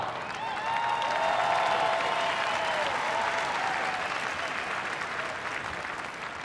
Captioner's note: applause, cheers